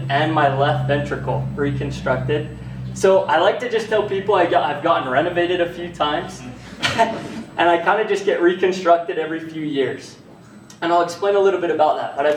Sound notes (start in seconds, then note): 6.4 laughs